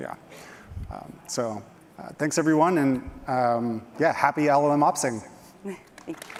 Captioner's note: applause